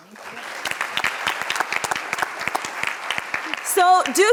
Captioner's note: audience applauds